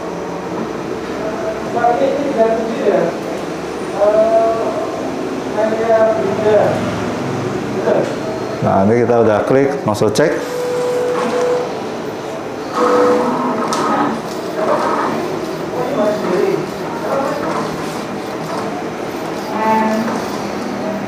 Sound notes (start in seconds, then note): 1.1 distant chattering; 10.5 printer machine sound; 15.6 distant chattering; 15.6 printer machine sound